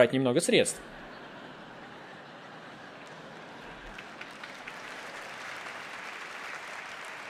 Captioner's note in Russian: Аплодисменты; Смех